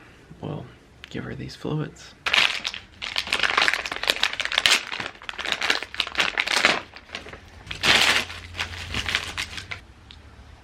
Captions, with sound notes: we'll give her these fluids. [plastic crinkling]